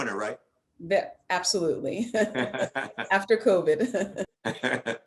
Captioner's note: laughs